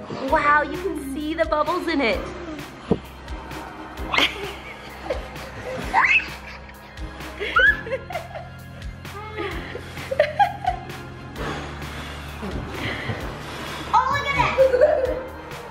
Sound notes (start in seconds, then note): 6.0 child squeals; 7.3 woman laughs